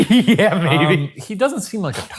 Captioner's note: laughing